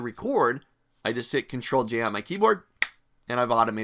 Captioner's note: snaps